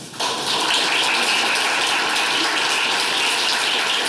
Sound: audience applauding

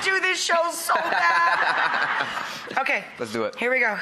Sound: laughs

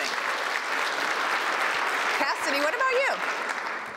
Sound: applause

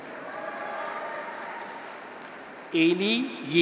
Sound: graduates cheer

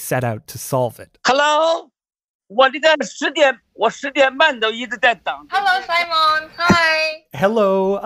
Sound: speaking Mandarin

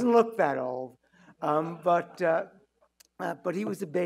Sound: audience chuckling

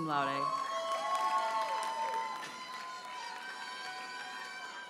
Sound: audience cheers and applauds

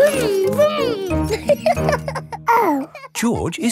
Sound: laughs and snorts; laughing

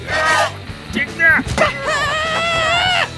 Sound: screaming; screaming again

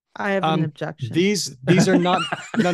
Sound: laughter

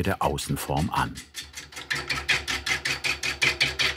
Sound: rhythmic clacking

